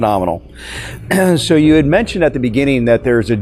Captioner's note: clears voice